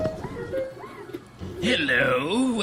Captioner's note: automatic door opens